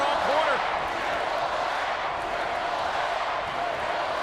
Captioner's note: crowd cheering